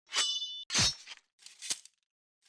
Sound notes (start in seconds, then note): 0.1 sword slashing